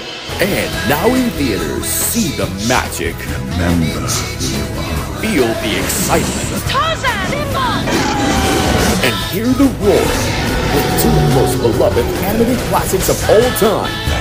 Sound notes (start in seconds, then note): 9.8 simba roars